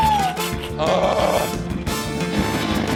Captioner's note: groans